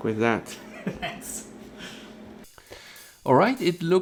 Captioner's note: laughter